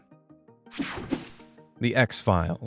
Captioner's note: screen whooshing